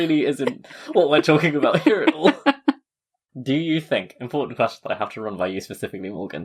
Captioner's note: laughs